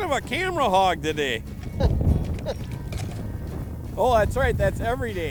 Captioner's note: laughing